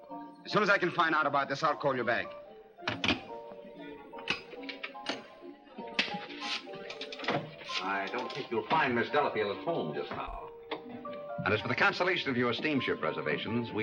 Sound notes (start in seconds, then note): 3.8 phone dial clicking